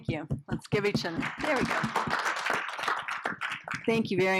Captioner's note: audience applauding